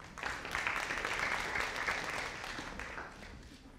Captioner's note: audience applauding